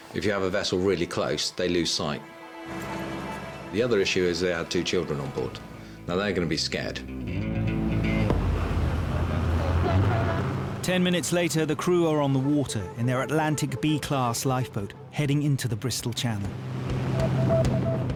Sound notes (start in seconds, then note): 2.2 dramatic music; 7.8 dramatic music; 9.2 boat engine revving